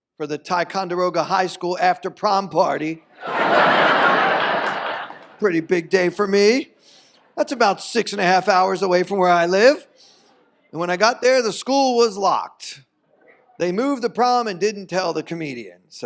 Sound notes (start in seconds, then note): 3.1 audience laughs